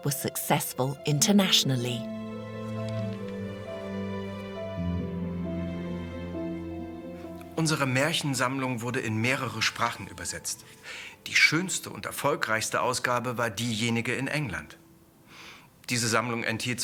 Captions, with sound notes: were successful internationally. (tranquil music) (speaking in foreign language)